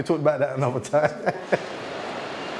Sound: laughs

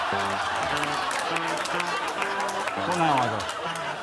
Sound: audience laughs

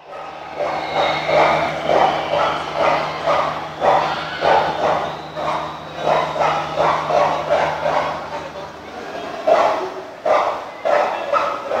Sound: barking dog

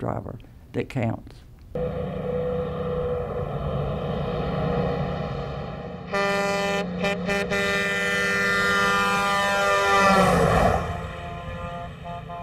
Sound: truck noises and air horn

